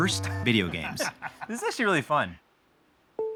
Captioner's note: laughing